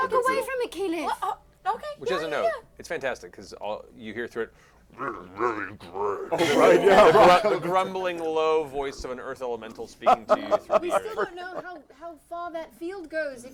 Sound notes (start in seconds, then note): 4.9 earth elemental grumbling